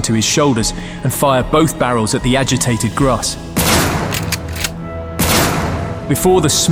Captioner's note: gunfire